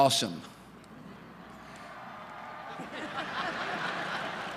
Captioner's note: cheers; laughter